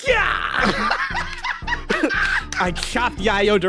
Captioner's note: laugh